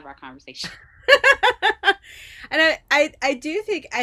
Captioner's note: laughing